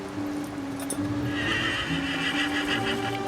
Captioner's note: horse whinnying